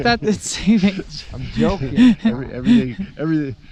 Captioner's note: laughing